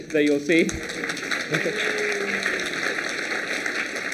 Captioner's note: applause